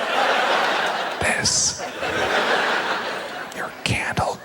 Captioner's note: audience laughs; whispers